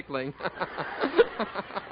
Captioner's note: audience laughing